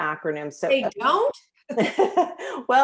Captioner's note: laughter